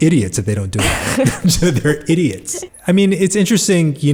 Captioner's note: laughs